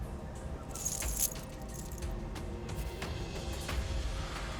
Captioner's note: tags jingling